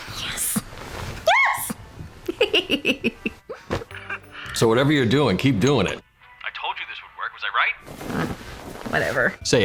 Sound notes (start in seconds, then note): 2.2 giggling